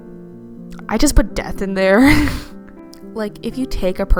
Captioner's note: wheeze